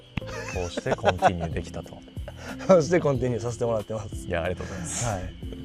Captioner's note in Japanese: 笑い